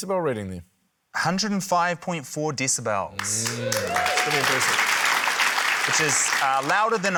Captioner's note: applause